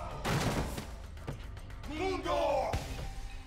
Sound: speaking in Spanish

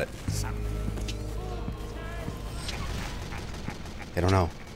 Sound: suspenseful music; man laughing

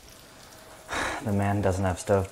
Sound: sighs

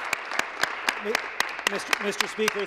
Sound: applause

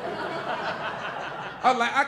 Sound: audience laughing

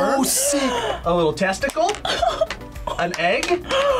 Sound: laughs

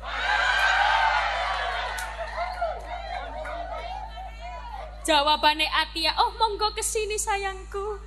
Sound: applause

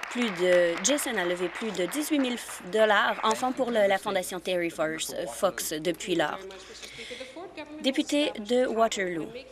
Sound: some Applause

